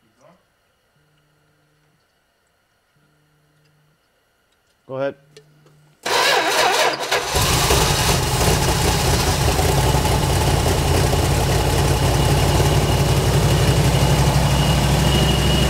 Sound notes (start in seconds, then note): 6.0 ignition stutters; 7.0 engine purrs